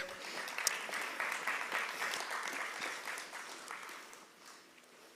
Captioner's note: applause